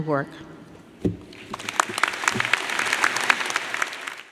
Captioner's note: audience clapping